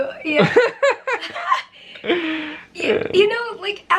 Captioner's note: laughter